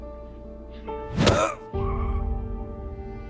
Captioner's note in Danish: grynker